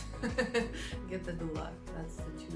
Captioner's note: laughs